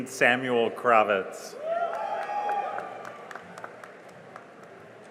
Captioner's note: cheering and applause